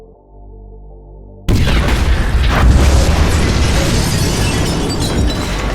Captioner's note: bombs exploding